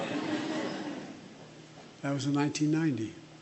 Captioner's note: laughter